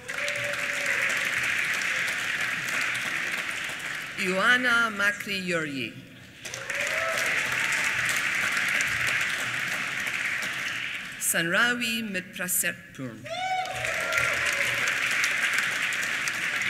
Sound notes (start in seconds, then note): 0.0 applause; 13.2 applause